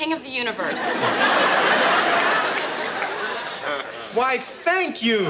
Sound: audience laughs

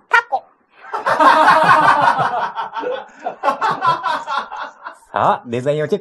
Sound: laughs

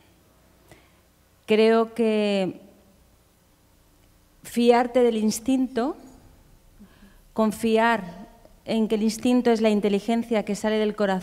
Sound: speaking in Spanish

